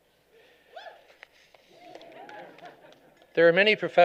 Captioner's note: applause